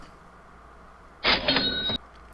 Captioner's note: cash register sound